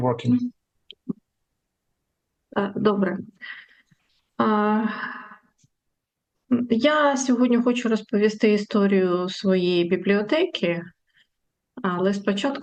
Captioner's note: foreign language